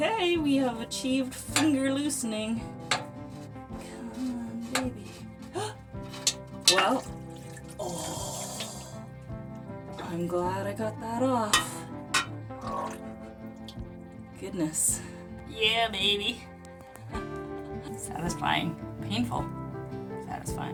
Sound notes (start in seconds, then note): 7.7 gasp, water rushes; 12.6 gurgle